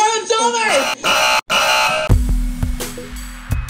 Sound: buzzing; funky music

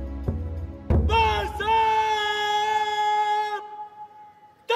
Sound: shouting orders in hindi

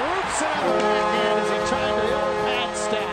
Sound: horn sounds

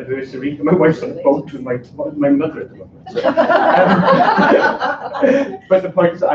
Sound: laughter

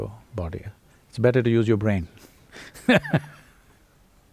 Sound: laughs

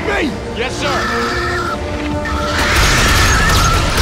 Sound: shrieking

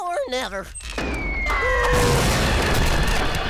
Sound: screaming, thudding

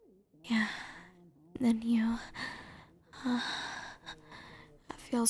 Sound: soft moan

